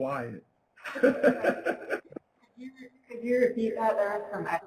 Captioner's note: laughs